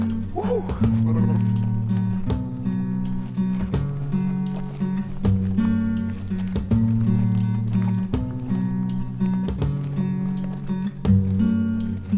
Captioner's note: footsteps on ground